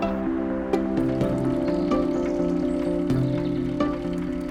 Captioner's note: bicycle pedaling